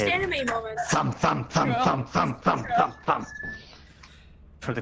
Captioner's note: thumthumthumthumthumthum!